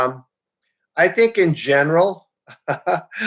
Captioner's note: chuckles